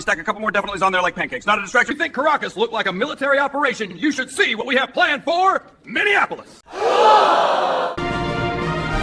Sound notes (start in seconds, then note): 6.7 crowd gasps